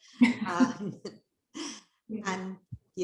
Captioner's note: chuckling